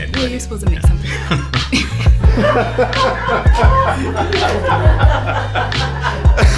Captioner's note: crew laughs; laughs